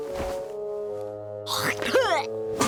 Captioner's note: spitting